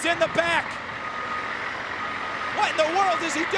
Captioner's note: ambulance beeping